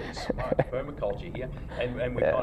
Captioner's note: laughs